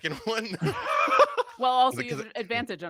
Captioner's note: laughs